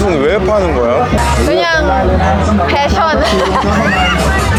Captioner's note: laughing